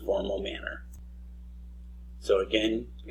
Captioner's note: mouse click